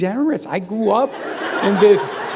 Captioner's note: laughter